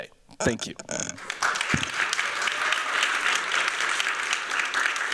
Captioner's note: applause